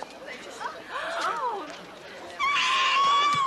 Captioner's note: crowd gasp; screams